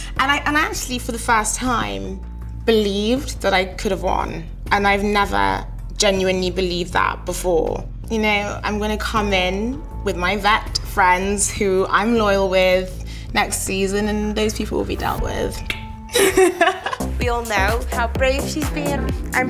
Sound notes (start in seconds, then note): 16.1 laughs